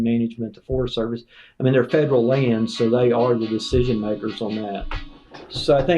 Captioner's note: phone rings